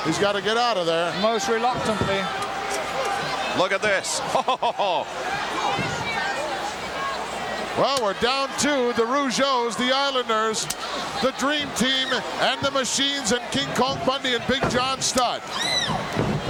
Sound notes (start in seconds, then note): 4.1 chuckles